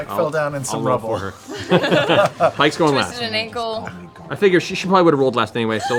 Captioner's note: laughs